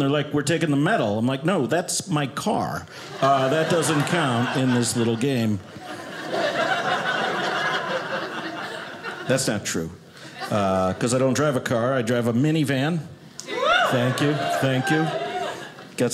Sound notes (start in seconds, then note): 6.2 audience laughing